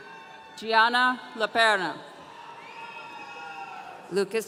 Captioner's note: audience cheering